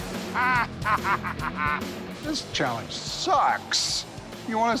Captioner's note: laughing